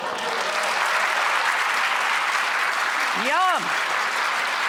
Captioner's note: audience clapping